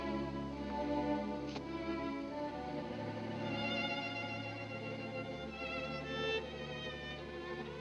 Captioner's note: none